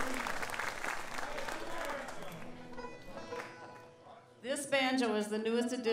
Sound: man yells out

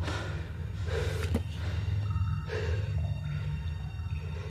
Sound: all breath heavily

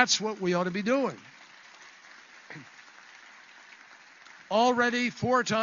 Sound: applause

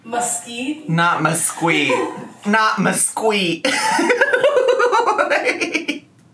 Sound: laughs

